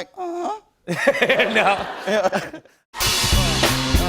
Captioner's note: laughter